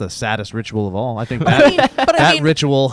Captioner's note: laughing